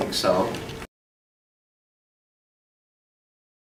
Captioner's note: silence